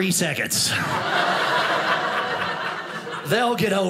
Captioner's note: audience laughing